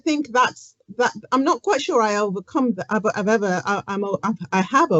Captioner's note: stutters